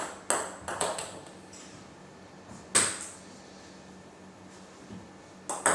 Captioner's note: balls ping pong hitting continues